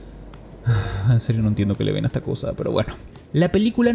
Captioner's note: sigh